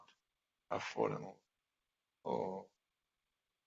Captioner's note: speaking quietly